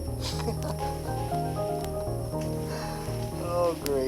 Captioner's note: lauging